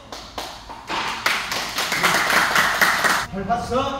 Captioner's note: applause